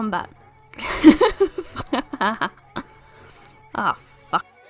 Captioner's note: laughing